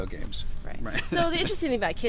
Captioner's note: laughs